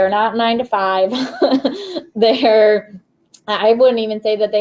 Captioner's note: laughs